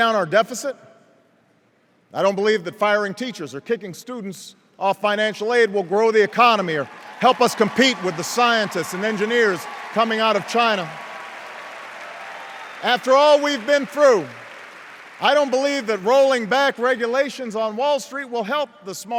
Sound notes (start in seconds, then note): 10.9 cheers and applause